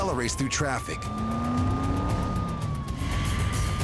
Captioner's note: siren wailing; car engine revving